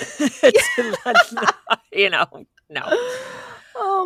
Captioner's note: laughing